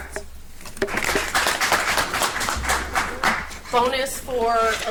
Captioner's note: audience applauds